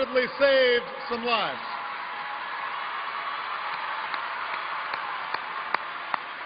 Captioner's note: cheers and applause